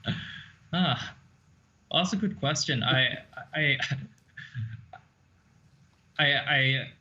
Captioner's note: laughing